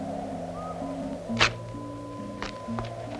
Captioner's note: rips; gentle music